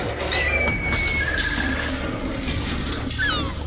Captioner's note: metal clanging; gulls squawking; metal clanging